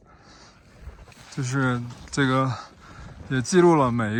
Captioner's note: ice cracks